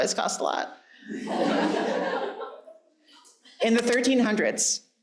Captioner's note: audience laughing